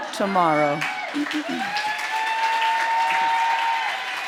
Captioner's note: applause